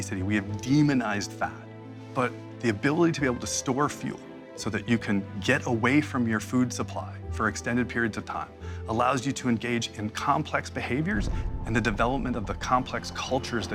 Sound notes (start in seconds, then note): none